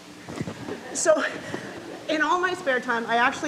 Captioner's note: audience laughs